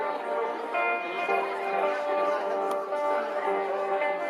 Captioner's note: crowd murmuring